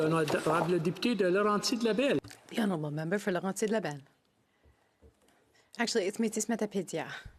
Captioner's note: speaking FRENCH